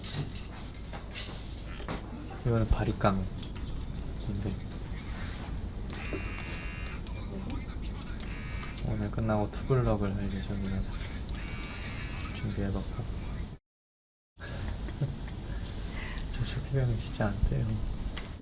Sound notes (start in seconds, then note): 11.3 bzzzz